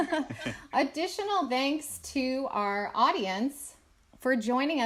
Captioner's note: laughs